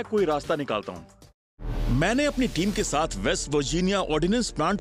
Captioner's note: narrating